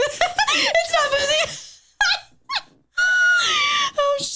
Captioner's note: laughs